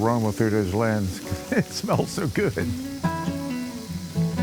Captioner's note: chuckles